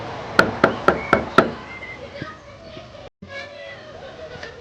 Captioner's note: knocking on door